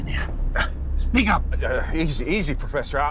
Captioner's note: stuttering